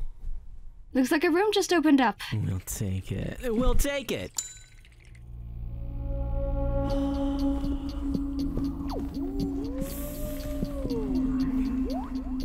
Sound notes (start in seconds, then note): 2.3 seductively; 4.3 bell ring; 6.8 creepy music